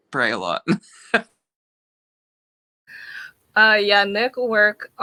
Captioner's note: laughing